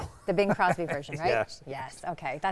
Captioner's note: laughing